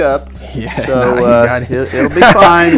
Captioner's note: laughing